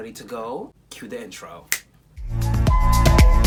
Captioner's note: snap